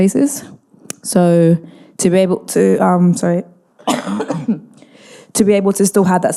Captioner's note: coughs